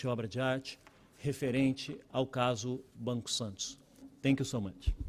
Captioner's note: speaking Portugese